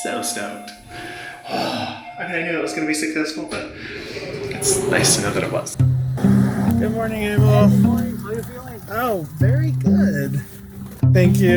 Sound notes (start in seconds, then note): 1.5 grunting